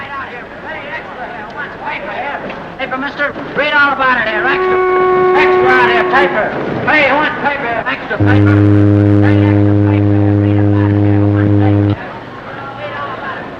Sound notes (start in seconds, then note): 8.2 ship horn